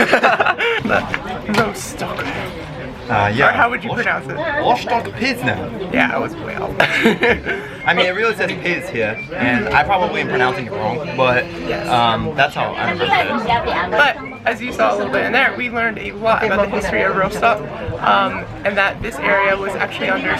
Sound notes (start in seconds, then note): 0.0 lols; 5.0 speaks German; 7.0 lols; 8.3 speaks German